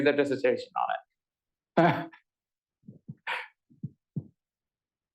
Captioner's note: laughter